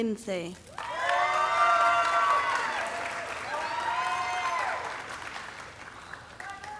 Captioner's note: audience cheering and clapping